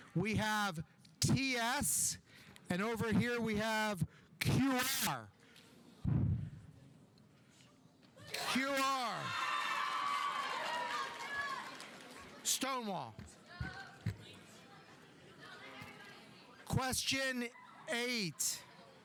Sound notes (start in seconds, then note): 8.3 audience cheering; 9.2 audience applauding